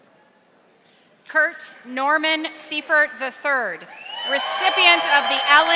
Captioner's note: audience applauding